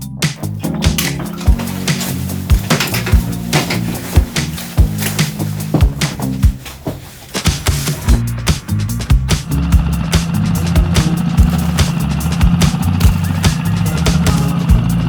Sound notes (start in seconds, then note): 0.0 lively music continues; 2.8 gear rattling; 9.4 boat whirring; 9.8 lively music continues